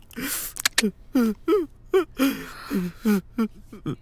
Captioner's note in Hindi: रोना